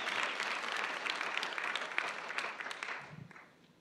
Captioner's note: applause